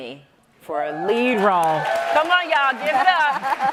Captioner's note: audience applauds; laughs